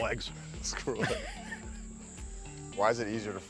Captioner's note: laughing